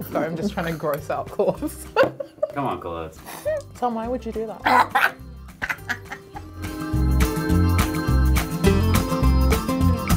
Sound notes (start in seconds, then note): 1.6 giggles; 5.5 gags and laughs